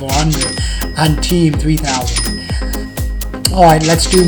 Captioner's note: dings